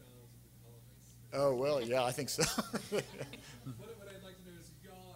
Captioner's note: laughing